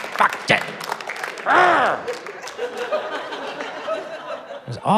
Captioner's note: growls